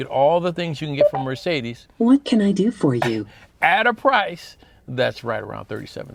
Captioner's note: Mercedes voice